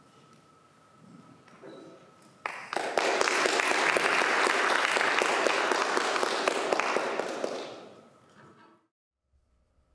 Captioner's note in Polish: Aplauz